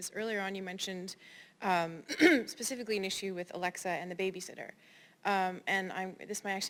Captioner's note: cough